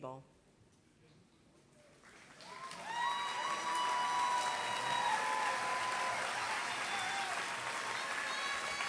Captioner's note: applause